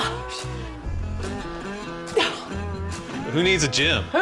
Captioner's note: grunting